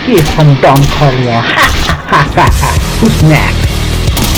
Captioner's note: evil Laugh